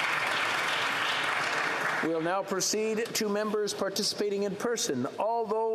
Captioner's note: applause